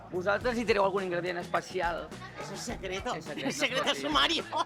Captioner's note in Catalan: rialles